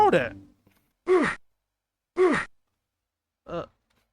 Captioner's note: meatbeating sfx